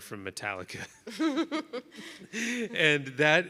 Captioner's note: people laughing